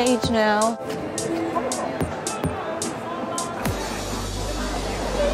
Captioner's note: faint chattering